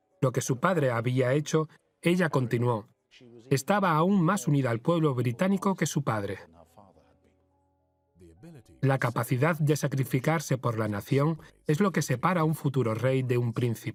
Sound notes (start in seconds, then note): 7.8 voiceover